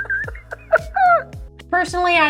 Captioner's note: laughter